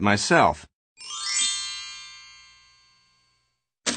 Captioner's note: chime